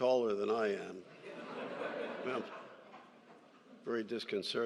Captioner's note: laughter